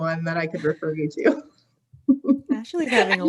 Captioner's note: laughing